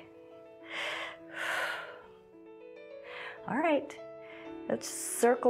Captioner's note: inhales and exhales